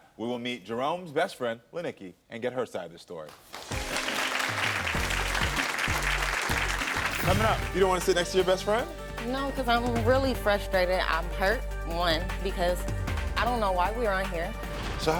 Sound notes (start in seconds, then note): 3.3 audience clapping; 3.5 upbeat music